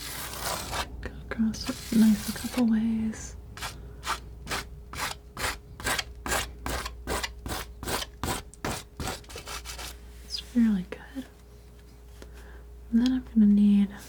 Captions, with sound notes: gonna cross it a nice couple ways. (scratching) It's really good. And then I'm gonna need,